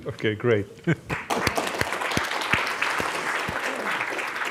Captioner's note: audience applauds